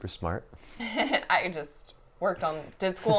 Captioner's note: laughs